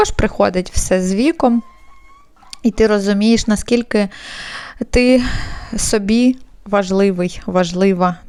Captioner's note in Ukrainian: хекання